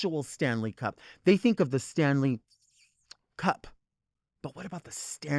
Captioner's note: mimics sucking